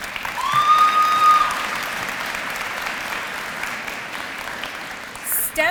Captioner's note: applause